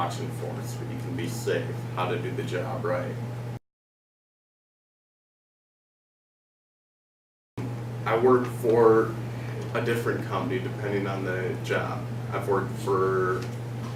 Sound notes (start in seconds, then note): 3.5 silence